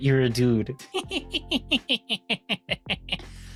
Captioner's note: laughs